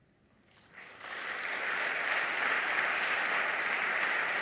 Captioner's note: audience applauds